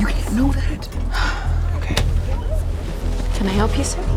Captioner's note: sigh